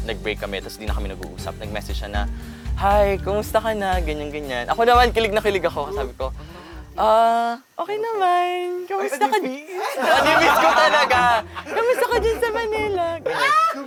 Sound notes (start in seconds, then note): 9.7 laughter